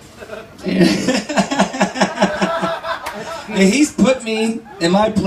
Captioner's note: laughs, upon realizing his cheesiness